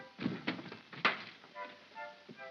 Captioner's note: window opens; soft whimsical music